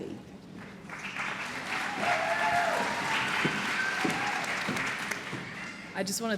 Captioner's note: applause